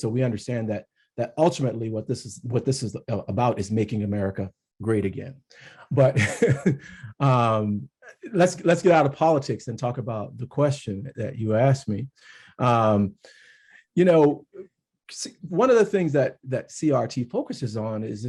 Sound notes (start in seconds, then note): 5.7 chuckles